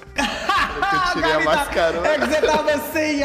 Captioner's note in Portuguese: risos